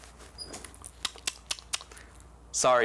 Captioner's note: clicks tongue